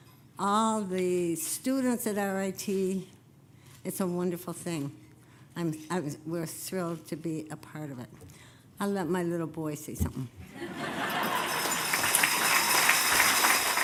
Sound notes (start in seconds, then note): 10.5 laughter; 11.0 applause